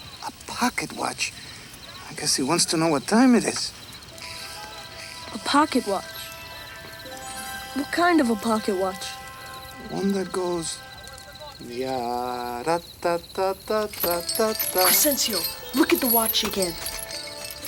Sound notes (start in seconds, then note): 6.6 suspenseful music; 11.6 Crecencio hums melodically